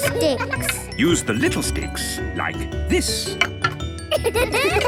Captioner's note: laughter